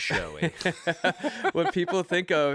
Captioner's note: laughter